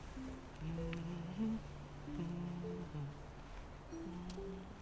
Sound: Leanne humming

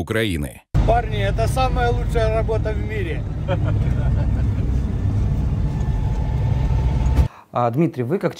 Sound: police officers chuckling

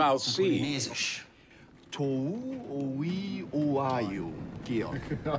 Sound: speaking Polynesian

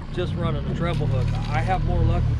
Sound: boat engine running

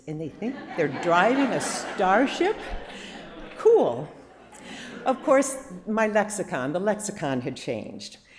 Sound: laughter

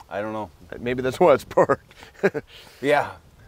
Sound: laughs

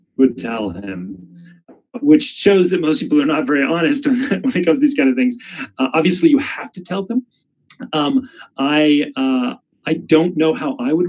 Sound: laughs

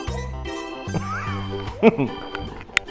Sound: laughs

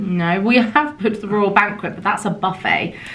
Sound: speaking foreign language

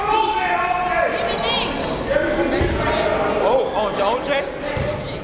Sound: yelling and cheering

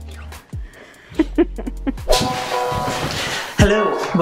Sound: chuckles

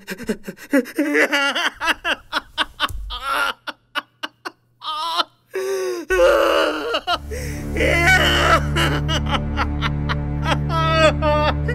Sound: cries

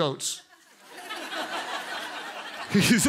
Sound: congregants laugh

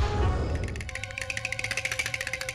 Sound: horse shivering

